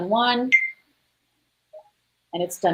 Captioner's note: beep